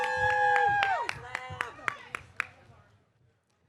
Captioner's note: audience cheering